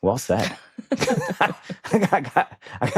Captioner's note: both chuckle